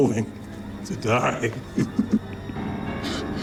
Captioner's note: chuckles